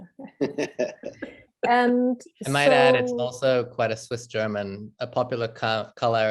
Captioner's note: laughing